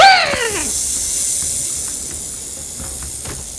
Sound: Beach Beast rattling

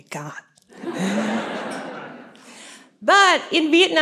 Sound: laughter

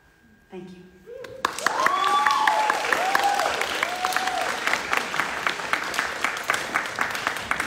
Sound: audience clapping; audience cheering

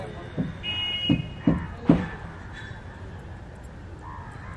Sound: bustles of the local town

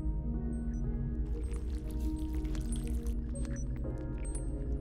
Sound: membrane squishing

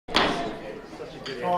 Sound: gavel bangs

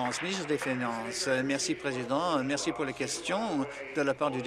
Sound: applause

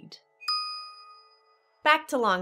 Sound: pause

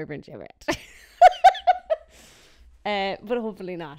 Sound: laughing

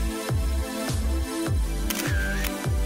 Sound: camera Shutter

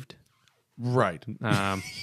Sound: laughter

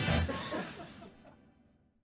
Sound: laughter

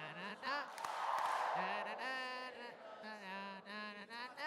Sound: claps

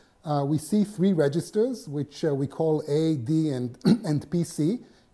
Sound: cough

